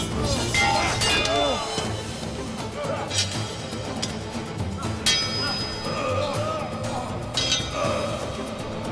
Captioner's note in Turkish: Dövüş sesleri